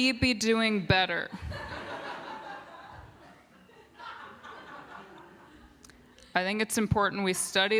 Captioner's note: laughter